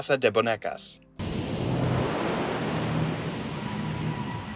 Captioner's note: loud whooshing noise